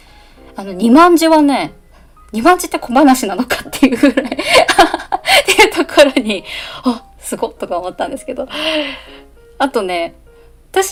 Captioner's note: laughs